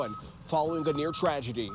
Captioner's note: nats of moving cars